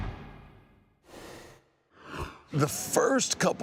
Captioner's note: rushing sound plays